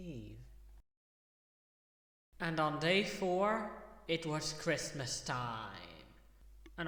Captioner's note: echo